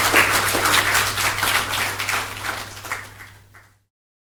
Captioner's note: appplause